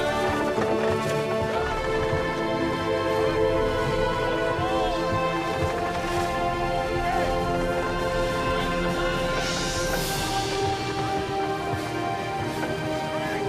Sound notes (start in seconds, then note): 5.0 dramatic music; 5.0 sailor shouting; 10.7 triumphant music